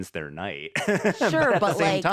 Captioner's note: laughs